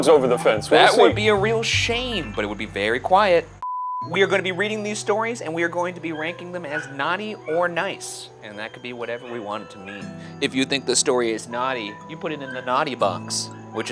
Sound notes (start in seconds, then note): 3.8 scene beeping